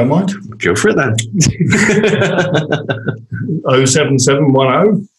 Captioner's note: they laugh